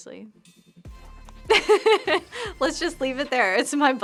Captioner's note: laughs